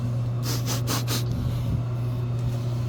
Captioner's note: sniff